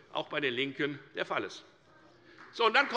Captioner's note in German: Beifall bei der FDP